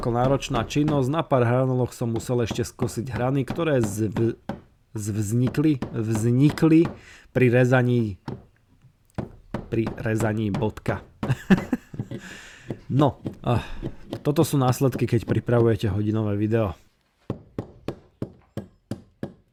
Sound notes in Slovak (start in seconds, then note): 11.2 smiech